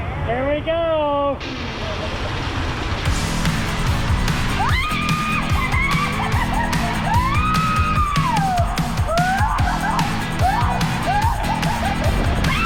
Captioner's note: screams all the way sliding down the waterslide